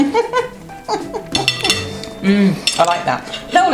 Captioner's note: laughs